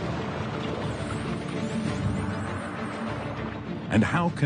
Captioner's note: dolphins squeaking